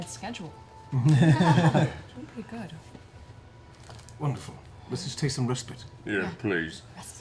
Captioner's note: laughs